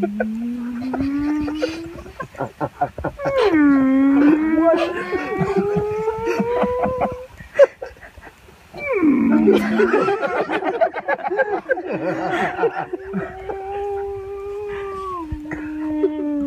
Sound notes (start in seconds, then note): 0.0 whale noises continuing; 1.9 laughing and more whale noises; 8.8 whale noise; 9.9 laughing with various whale noises